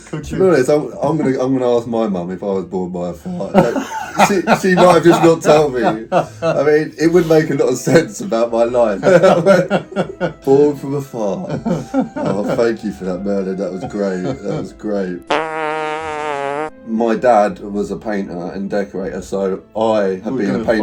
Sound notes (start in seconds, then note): 8.9 both laughing; 15.2 fart rumbling